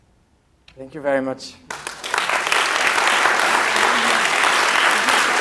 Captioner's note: applause